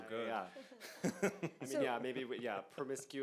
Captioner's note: laughs